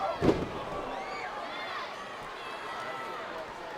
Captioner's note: body thuds